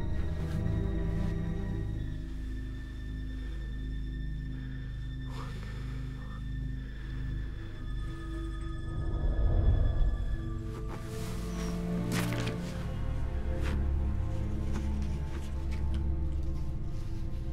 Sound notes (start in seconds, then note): 5.5 quietly